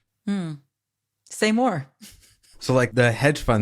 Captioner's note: laughs